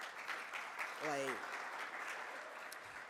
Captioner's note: audience applauds